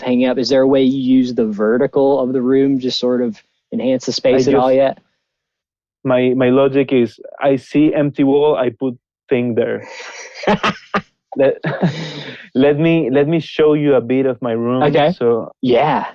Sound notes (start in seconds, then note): 9.6 laughing